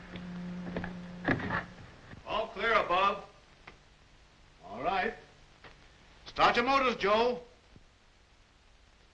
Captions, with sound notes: - [Crash] All clear above. - All right, start your motors, Joe.